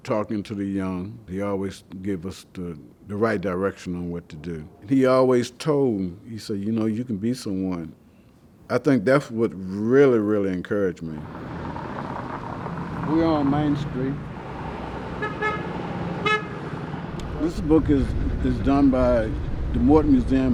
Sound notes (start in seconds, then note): 11.1 car engine revving; 13.8 car engines revving; 15.1 car hooting